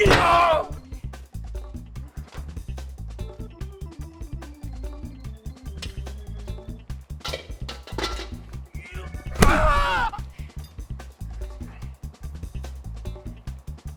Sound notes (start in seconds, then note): 0.0 wok thudding; 0.0 Strung Out grunting; 9.3 wheel wrench thudding